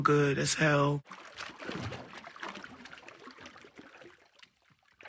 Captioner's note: water sloshing